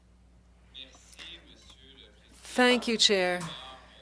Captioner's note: speaking French